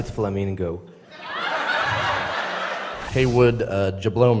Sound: laughters

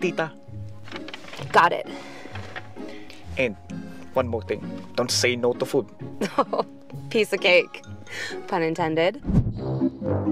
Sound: laughs

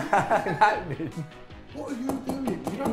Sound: laughing

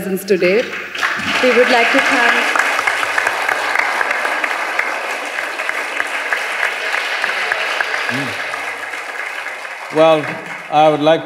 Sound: applause

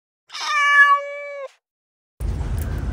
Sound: meow

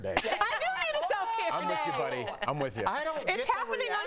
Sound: laughter

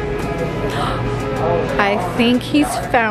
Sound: gasps

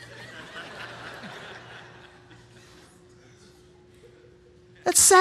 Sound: congregation laughing

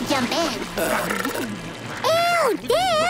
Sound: belching

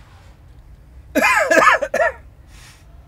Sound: he coughs

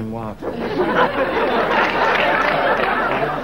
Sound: audience laughing

